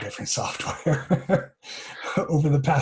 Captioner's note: laughter